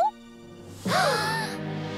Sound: gasps

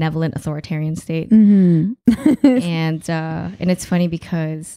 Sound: laughing

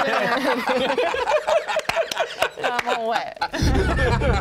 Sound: group laughing; electronic music

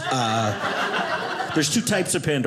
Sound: audience laughing

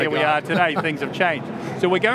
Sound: laughs

